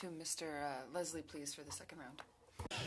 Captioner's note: speaking French